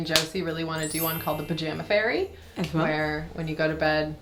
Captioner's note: wind chime dinging